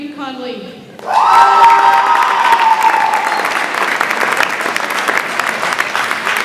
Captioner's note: audience applauds and cheers